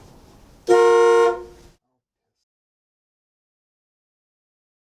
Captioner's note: car horn honking